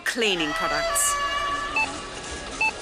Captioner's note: screams